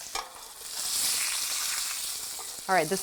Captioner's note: sizzling